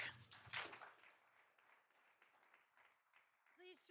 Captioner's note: all applauding